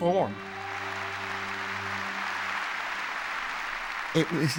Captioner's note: audience cheering and applauding